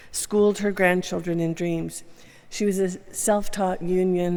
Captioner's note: none